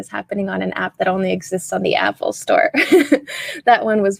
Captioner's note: chuckles